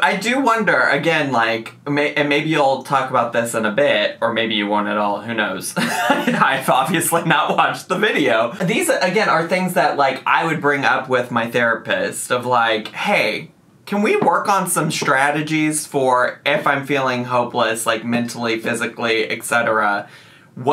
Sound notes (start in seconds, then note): 5.9 laughs